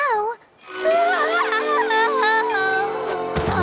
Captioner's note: moan; thud